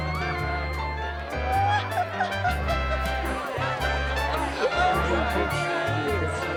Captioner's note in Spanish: charla indistinta del partido